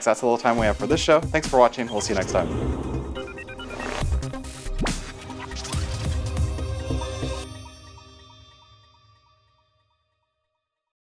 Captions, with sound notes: That's all the time we have for this show. Thanks for watching, we'll see you next time. (whooshes) (beeps) (upbeat music)